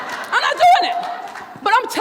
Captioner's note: crowd laughs